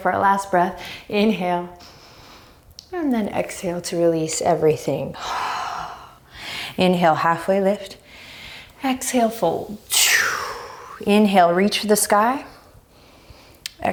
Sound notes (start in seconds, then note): 0.7 deep breaths; 5.2 deep breaths